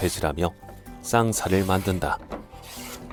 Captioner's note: planing sound